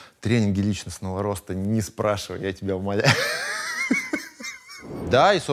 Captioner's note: laughs